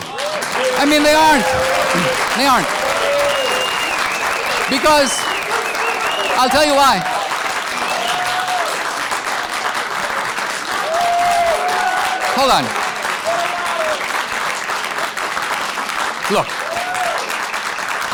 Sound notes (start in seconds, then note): 0.2 audience cheers and applause